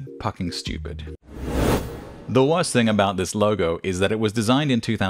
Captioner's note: swoosh sound